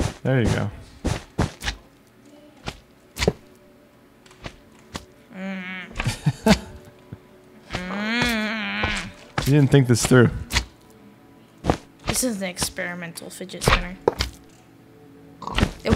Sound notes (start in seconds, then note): 5.8 laughs; 7.7 grunts